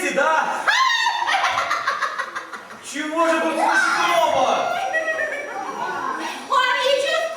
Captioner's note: the cat laughs